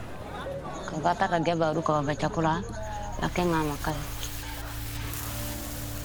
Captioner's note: speaking in foreign language